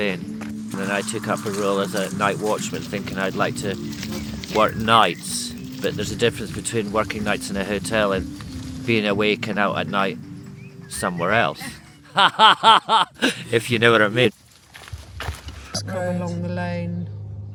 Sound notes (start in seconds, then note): 11.5 laughter